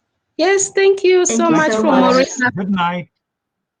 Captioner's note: chatter